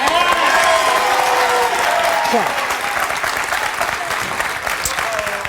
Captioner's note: audience cheering